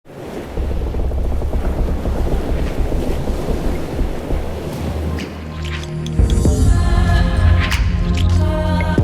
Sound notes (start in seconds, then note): 0.0 oceans waves flowing; 4.6 uplifting music